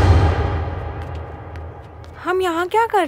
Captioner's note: Footsteps